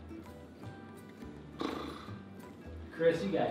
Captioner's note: blows air from mouth